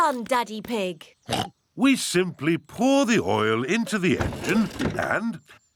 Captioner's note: oinks